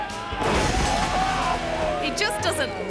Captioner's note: thuds